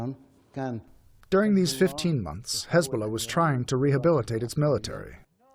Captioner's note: through translator